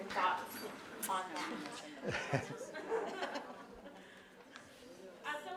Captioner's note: laugh